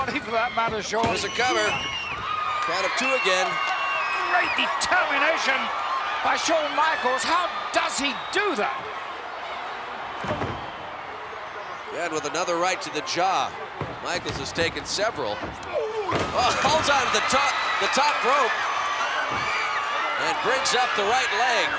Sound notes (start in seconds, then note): 8.9 audience cheering; 15.8 Mr. Perfect groans